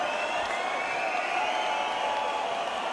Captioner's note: whistling